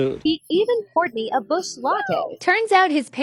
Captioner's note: female AI voice